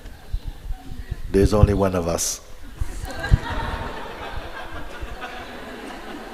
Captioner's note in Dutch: gelach